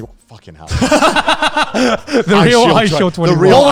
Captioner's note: laugh